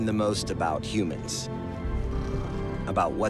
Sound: sailors snoring

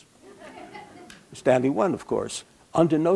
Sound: background laughter

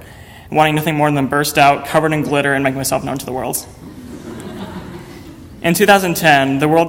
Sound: audience laughter

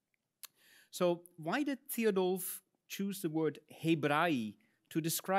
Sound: speaks in Latin

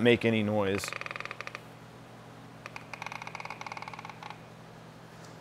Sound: engine creaking

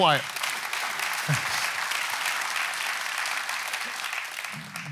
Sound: audience applauds

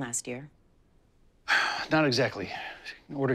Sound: sighs

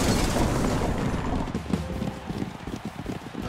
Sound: distant applause

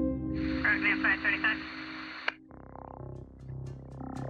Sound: dispatch chattering

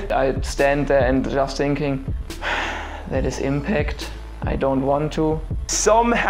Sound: sigh

